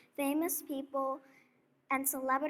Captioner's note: none